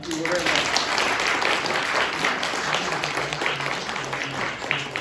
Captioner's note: applause